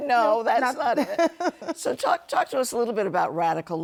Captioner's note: laughter